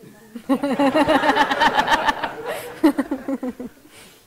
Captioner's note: all laugh